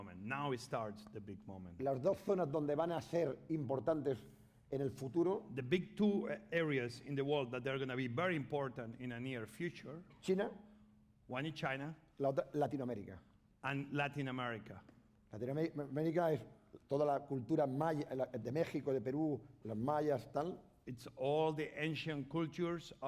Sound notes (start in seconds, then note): 3.0 speaking spanish; 10.4 speaking spanish; 16.0 speaking spanish